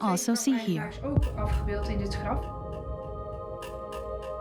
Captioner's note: speaks Dutch